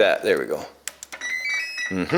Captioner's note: beeping